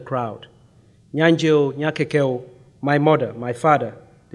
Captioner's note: speaking in foreign language